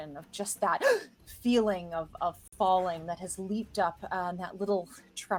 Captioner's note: gasps